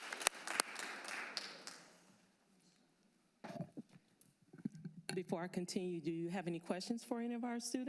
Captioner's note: applause